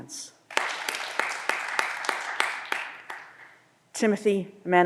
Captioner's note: audience applause